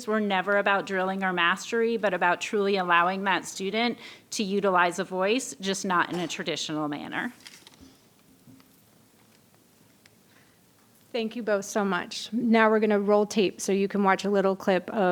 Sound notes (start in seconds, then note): 7.4 paper rustling